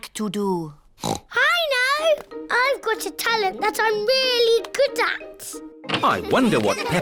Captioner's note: oinks